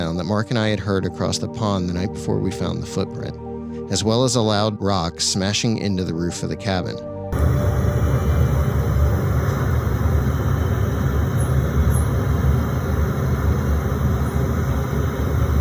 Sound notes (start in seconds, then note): 7.3 static buzzing; 10.9 insect chittering